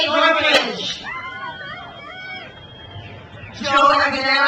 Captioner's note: crowd cheers